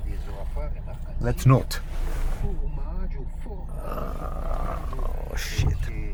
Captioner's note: speaking in foreign language